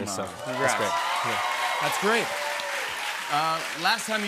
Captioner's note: cheers and applause